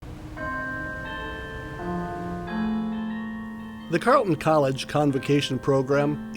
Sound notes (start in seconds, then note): 0.3 bells chiming